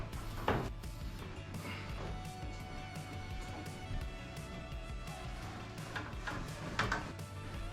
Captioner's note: wood clanking; upbeat music